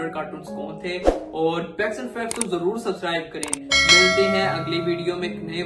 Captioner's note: bell sound is heard